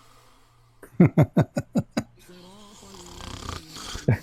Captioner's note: Ketawa